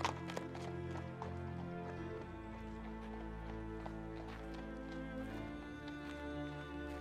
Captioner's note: dramatic orchestral music; hooves clomping